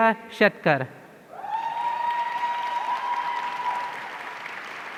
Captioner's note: audience cheering